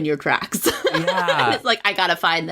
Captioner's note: laughs